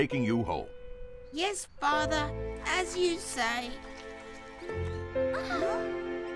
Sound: sobs

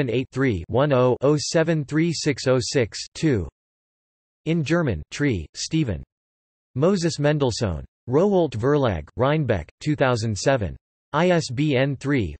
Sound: in German

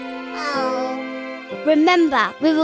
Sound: none

